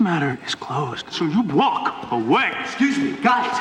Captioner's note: shouting